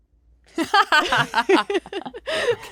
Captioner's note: 2 women laughing